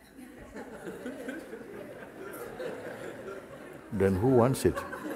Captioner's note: laughter